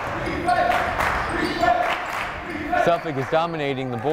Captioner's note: chanting; clapping